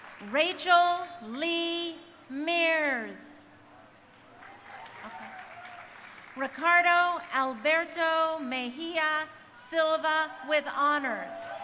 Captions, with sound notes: Rachel Lee Mears. (crowd cheering) Okay. Ricardo Alberto Mejia-Silva with honors.